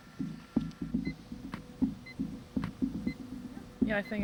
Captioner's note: device beeping, hammer tapping in rhythm